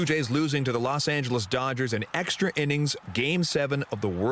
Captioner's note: applause